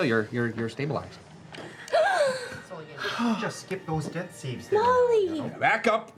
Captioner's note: gasping